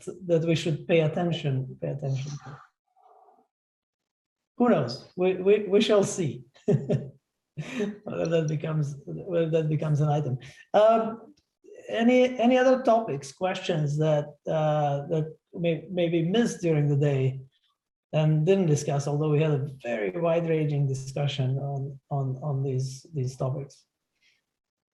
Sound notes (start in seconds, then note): 6.6 laughter